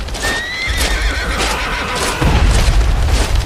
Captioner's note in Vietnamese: la hét